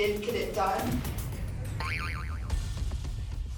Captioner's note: boing